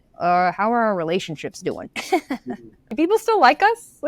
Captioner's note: laughs